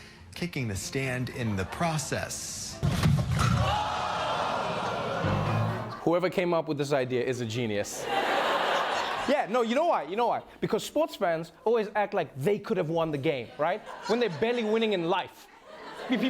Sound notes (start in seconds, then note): 3.3 audience groaning; 8.0 laughter